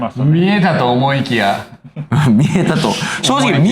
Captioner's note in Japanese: 笑い